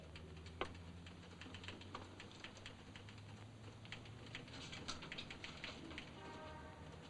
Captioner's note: typewriter chattering